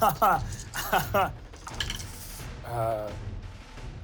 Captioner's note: laughs